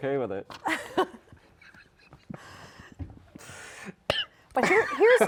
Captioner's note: laugh